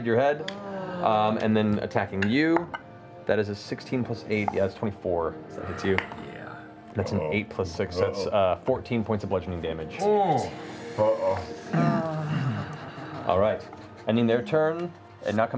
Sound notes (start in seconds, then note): 11.0 groans